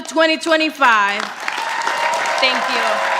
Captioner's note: audience applauding